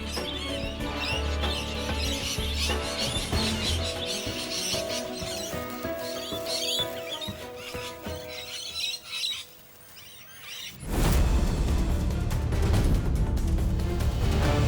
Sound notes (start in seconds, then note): 0.0 upbeat music; 2.6 birds chirping; 8.7 dramatic music